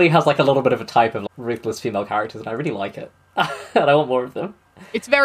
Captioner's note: laughs